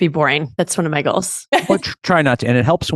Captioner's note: laughs